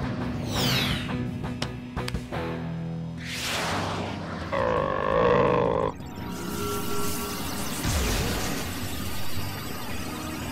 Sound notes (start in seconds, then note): 4.5 growling; 6.5 electric static